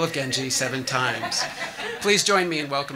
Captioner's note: audience laughing